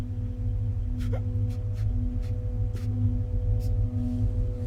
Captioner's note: sobbing